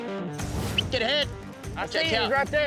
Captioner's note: whistle